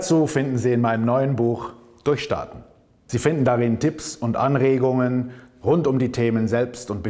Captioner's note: German